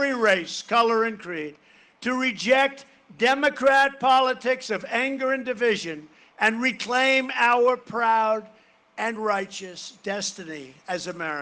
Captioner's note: cheering and applause